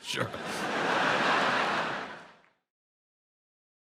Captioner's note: audience laughs